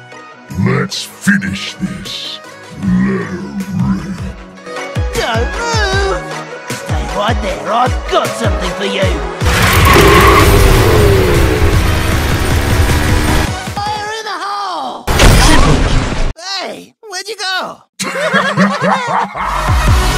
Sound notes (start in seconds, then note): 15.1 boom; 18.0 laughter